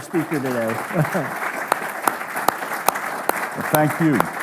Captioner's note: audience applauding